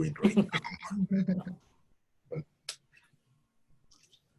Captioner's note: all laughing